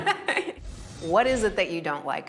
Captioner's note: laughing